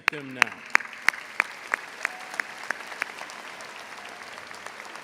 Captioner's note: all applauds